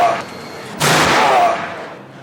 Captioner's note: gunshot